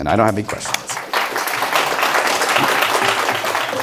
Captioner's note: applause